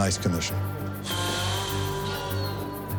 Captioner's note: exhales